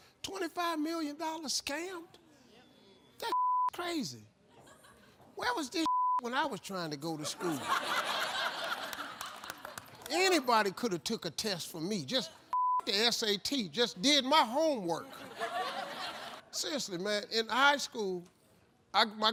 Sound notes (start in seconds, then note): 3.2 beep; 5.8 beep; 7.3 audience laughs; 12.5 beep; 15.0 audience laughs